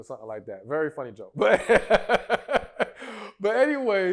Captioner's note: laughter